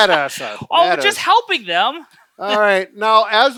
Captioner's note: laughs